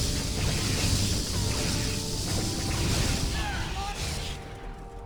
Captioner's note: explosion